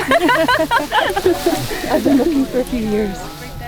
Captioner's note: laughing